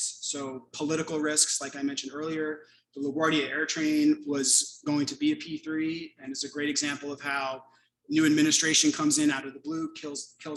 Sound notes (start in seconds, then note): none